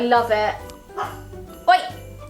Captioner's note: Nala barks